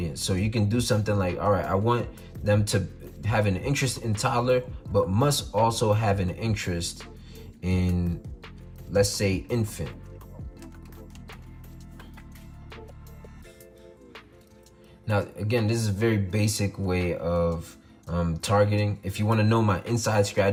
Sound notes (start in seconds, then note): 10.2 typing on keyboard